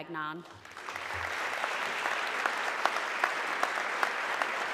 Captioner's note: audience clapping